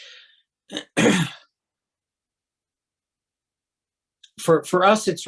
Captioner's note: clears throat